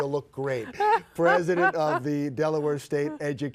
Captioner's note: both laugh